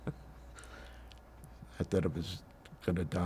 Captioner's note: laughing